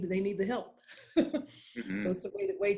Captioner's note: laughing